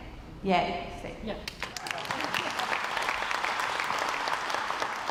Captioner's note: crowd applauds